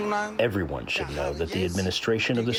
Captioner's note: through translator